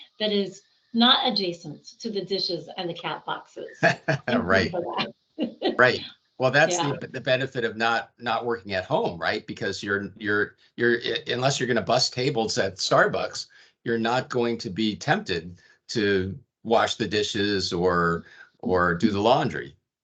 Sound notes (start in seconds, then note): 3.7 laughing